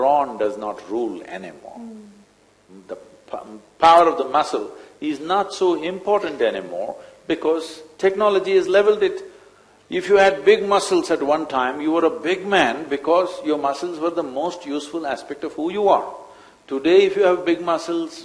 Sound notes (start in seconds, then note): none